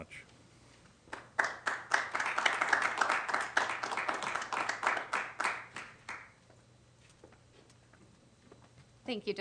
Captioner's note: applause